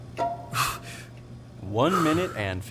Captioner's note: Christopher exhales